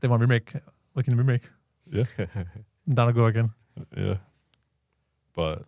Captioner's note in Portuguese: risos